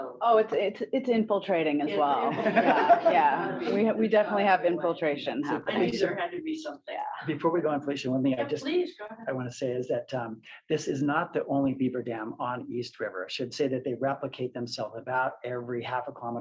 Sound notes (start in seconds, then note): 2.2 laughter